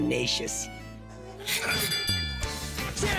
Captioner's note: bell dings